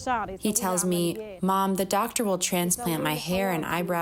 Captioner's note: through translator